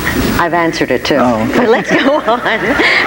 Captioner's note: laughs